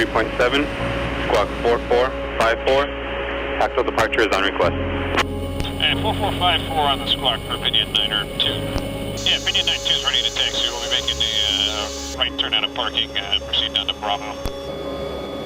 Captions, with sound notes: departure frequency 353.7 squad 4454 tactile departure is on request. (radio tower chatter) You will be making the right turn out of parking and proceed down to bravo.